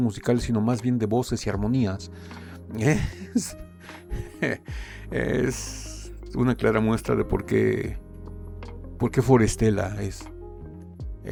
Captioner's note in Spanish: risas